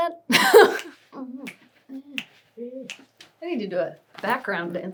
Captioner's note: laughs; humming and snapping fingers